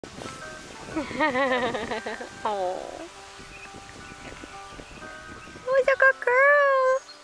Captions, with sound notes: (laughing) Awww what a good girl...